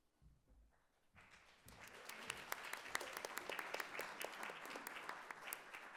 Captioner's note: audience applauding